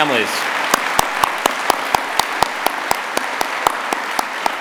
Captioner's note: applause